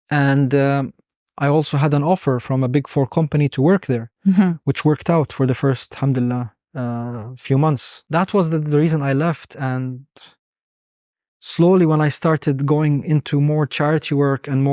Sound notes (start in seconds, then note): 6.4 speaking Arabic